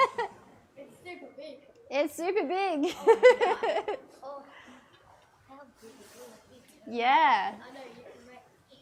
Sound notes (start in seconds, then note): 5.5 laughs